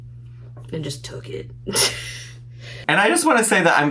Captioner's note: laughs